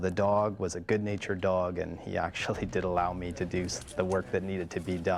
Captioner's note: voiceover